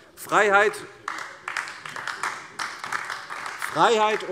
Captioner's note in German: Beifall AfD